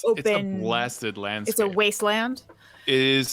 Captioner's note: none